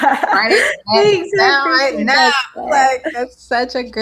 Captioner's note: laughs; overlapping chattering